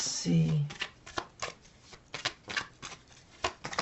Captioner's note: cards shuffling